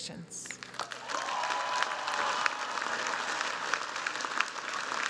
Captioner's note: cheers, applause